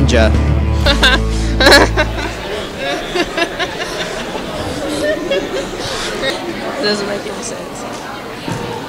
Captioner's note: laughs